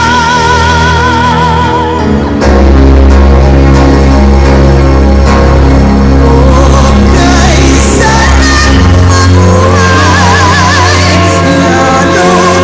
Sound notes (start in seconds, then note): none